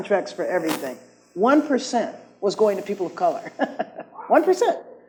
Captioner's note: laughs